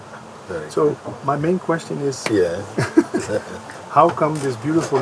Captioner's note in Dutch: gelach